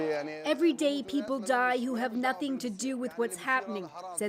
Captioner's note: speaking alternate language